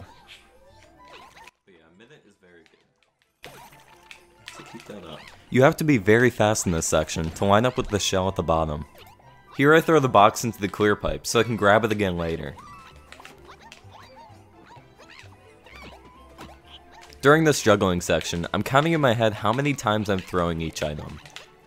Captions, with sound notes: *CONTROLLER CLICKS* You have to be very fast in this section to line up with the shell at the bottom. Here I throw the box into the clear pipe so I can grab it again later. During this juggling section. I'm counting in my head how many times I'm throwing each item.